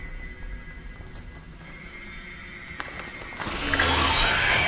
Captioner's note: tarp rustling